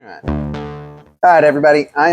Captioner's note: logo pings